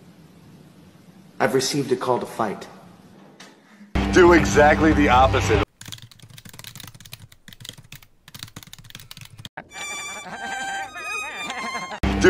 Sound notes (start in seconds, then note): 5.7 keyboard typing; 9.7 sad violin